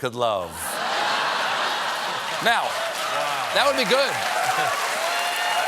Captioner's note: laughter